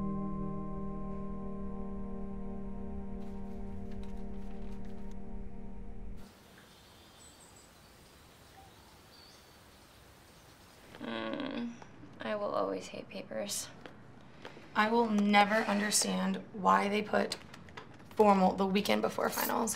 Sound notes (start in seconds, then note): 3.2 paper rustling; 6.1 insects chirping